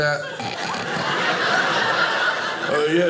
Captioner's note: audience laughing